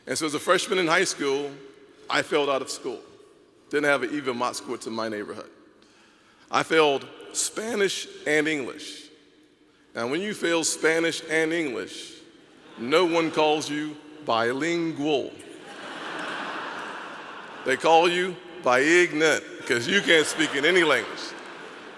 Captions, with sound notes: And so as a freshman in high school. I failed out of school, didn't have even mark in school to my neighborhood. I failed Spanish and English. And when you fail Spanish and English, no one calls you bilingual. (audience laughing) They call you bi-ignorant because you can't speak in any language.